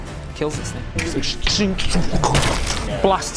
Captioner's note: tch-sching...boof!